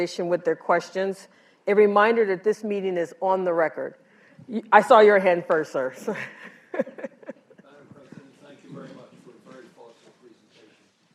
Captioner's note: laughs